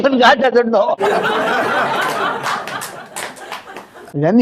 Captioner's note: laughs